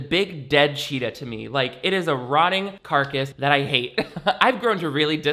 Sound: chuckles

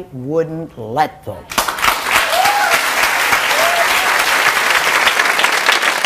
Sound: audience cheering and clapping

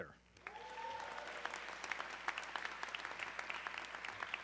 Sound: audience cheering

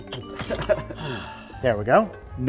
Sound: laughter

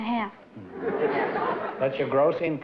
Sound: laughter

